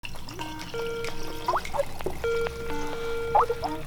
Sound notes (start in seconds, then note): 0.0 Skype ring tone